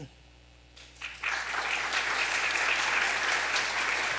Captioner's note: applause